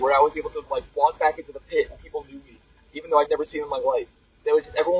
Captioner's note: none